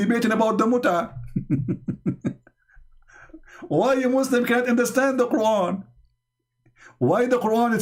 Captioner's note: Ketawa